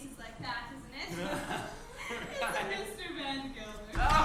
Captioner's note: both laugh